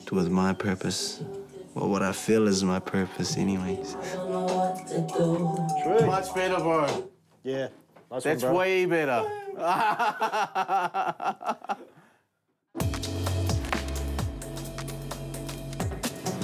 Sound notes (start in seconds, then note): 9.2 men laugh; 12.8 upbeat music